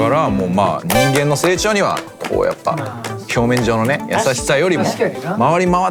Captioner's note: clapping softly in agreement